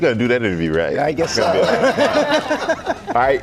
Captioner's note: laughter